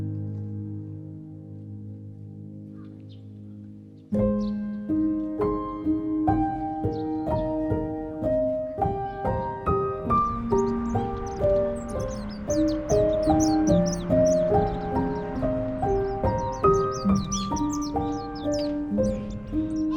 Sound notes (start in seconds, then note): 18.1 birds